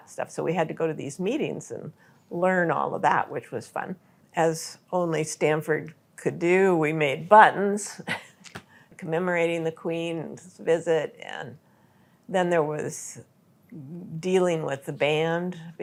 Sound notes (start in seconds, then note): 8.2 laughs